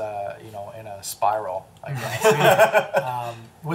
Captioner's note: all laugh